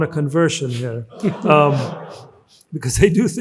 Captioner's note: audience laughs